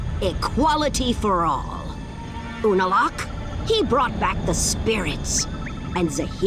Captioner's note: none